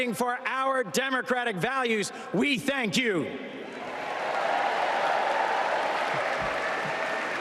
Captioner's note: applause